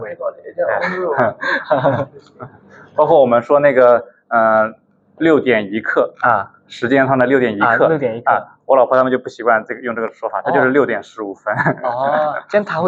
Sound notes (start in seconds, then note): 0.7 laughs; 11.5 laughs